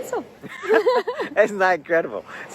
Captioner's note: both laughing